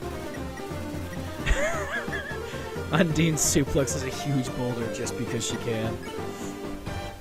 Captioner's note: chuckling